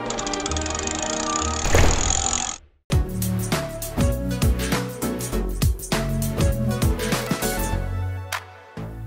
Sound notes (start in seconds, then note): 1.6 vault closing; 1.6 vault locking